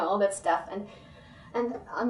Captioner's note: breathes in